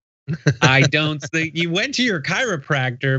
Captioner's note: laugh